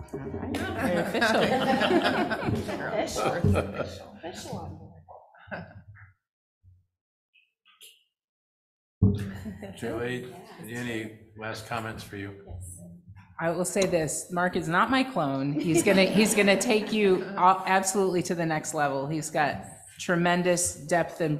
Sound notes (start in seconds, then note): 6.8 chuckling